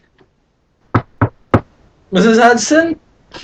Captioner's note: knocking